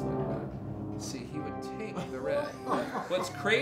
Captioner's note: crowd laughing